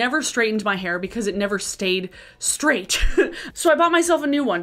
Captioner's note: laughing